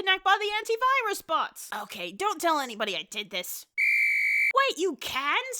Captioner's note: whistle sound effect